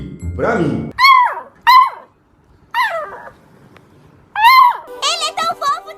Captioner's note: Cute barks from Valente